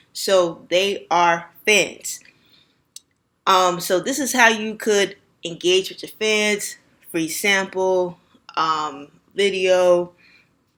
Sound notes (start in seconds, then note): 2.2 silence